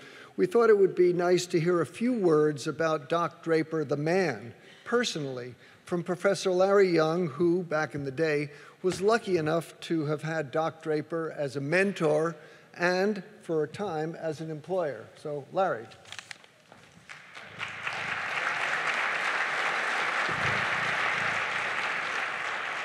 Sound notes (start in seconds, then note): 16.9 applause